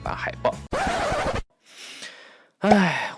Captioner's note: sigh